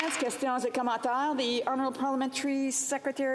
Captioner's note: applause